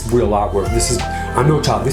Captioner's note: Charlie squeaks